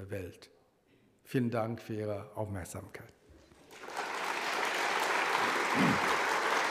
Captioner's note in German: Publikum klatscht